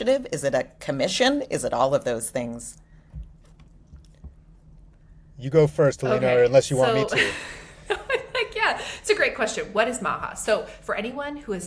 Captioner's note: laughs